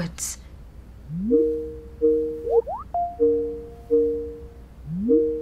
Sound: phone ringing

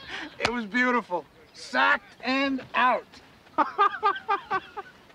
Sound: laughing; laughs

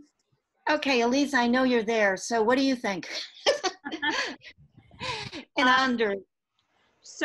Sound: laughter

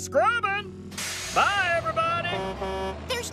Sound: horn Honks

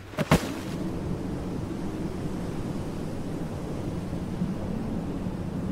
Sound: wind blows

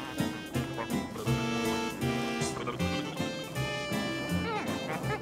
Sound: lively upbeat music; Muppet humming

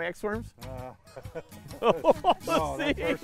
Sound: laughs

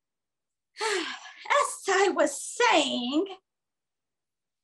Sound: sighs

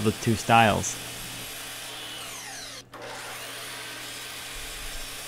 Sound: saw buzzing

